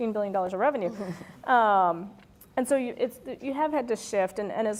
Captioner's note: laugh